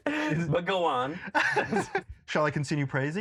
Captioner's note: laughs